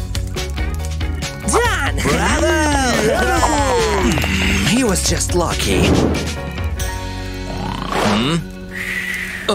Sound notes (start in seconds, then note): 2.6 grumbles; 7.5 snoring